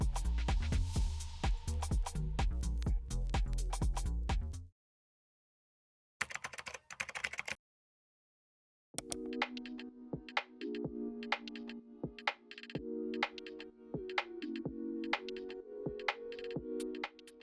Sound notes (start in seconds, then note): 0.0 upbeat music; 6.1 key caps clacking; 8.9 mouse button clicks; 9.0 upbeat music